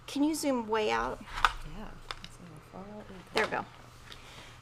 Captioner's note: faintly speaking